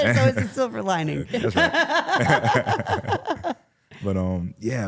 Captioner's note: laughing; laughs